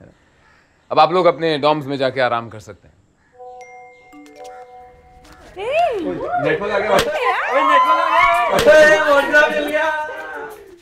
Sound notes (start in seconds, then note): 3.4 notification sound